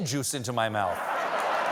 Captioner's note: laughter; applause